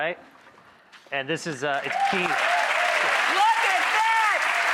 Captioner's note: audience clapping